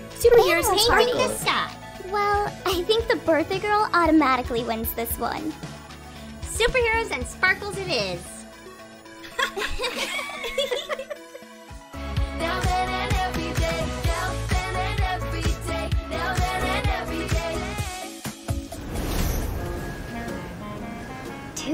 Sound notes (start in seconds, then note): 9.2 all laughing; 19.8 light music